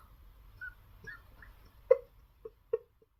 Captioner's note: sobbing